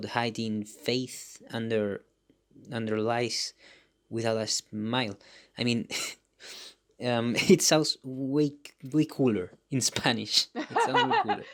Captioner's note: chuckles; laughs